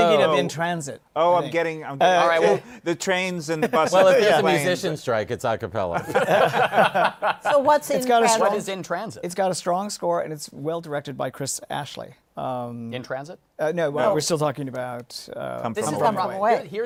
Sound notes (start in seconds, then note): 5.9 laughter